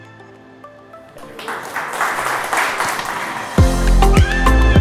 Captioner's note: attendees clapping; bright music